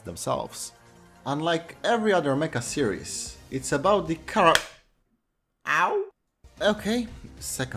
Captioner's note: slap